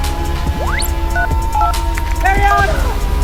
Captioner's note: device beeping